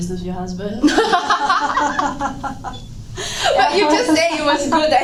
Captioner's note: laughing